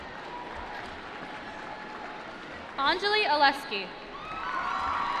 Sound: applause

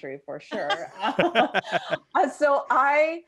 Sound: all laughing

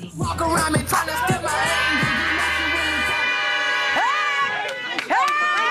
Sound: party goers cheering

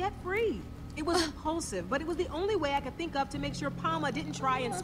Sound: Sabrina gasps

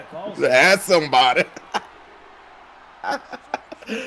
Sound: laugh

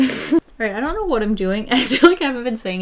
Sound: laughs

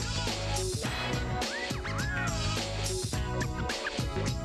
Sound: wolf whistle

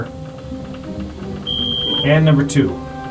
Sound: elevator beeping

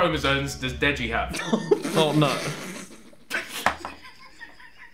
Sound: group laughing

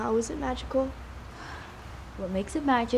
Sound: sighs

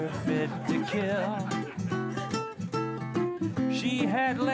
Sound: laughter

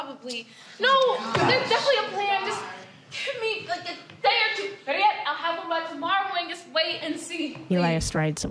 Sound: frustrated sighs

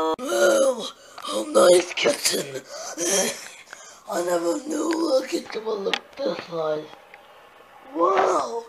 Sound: breathing

